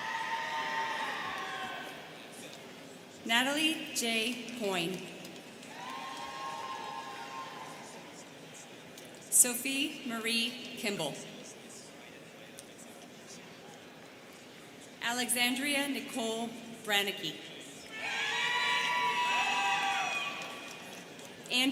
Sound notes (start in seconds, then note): 0.0 students cheering; 5.6 students cheering; 13.3 students chattering; 17.9 students cheering